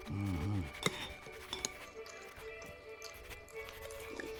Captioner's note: pen scribbling; spoon scraping bowl